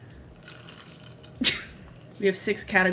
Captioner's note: laughs